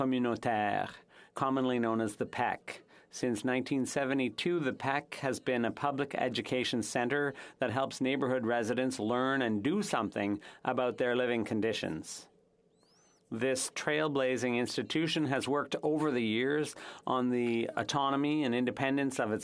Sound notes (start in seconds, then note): 4.1 speaking French